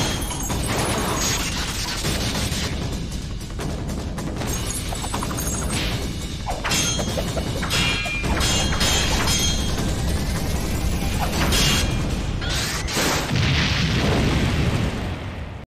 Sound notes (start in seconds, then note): 7.6 sword Slashing; 12.5 explosion